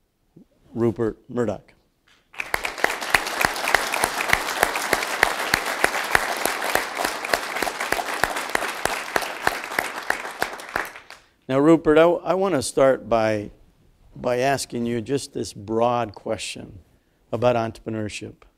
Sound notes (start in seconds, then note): 2.3 applause